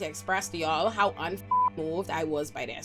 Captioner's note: beep